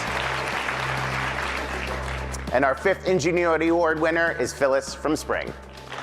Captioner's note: applause